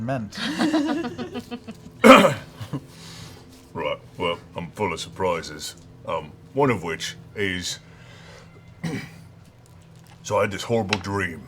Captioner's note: clears throat